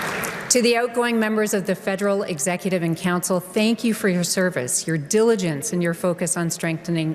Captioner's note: applause